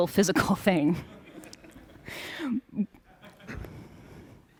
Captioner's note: laughter